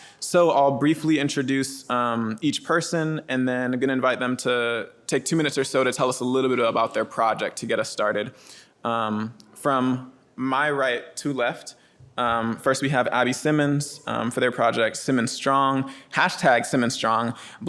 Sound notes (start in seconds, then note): none